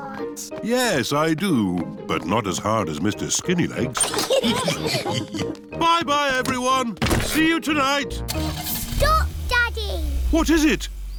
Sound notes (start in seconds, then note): 4.0 all laugh